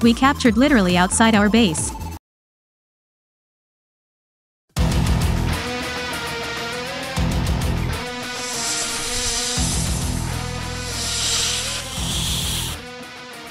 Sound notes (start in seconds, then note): 9.8 speaks in Snakes